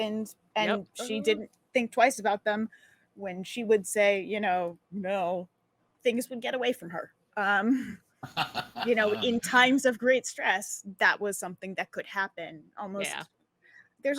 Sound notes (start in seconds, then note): 8.2 laughing